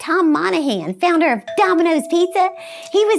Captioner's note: doorbell chimes